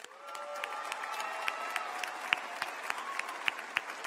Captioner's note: applause